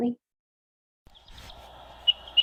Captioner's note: bird singing